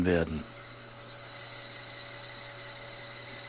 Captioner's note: soft rattling whir